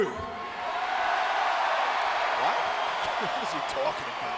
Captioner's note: audience cheers